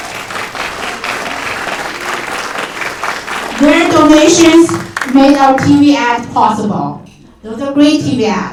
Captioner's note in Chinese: 掌声